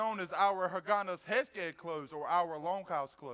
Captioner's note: speaks foreign language